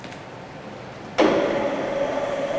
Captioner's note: hydraulic whir